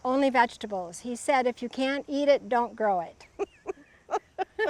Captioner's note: laughs